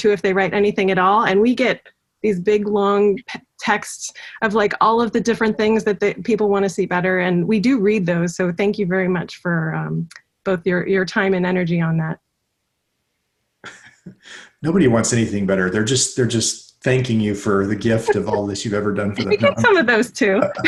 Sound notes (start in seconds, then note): 13.6 laughs